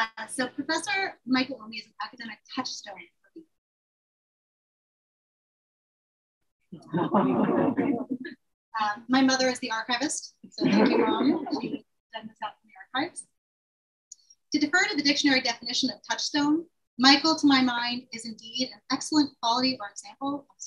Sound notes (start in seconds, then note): 6.8 laughter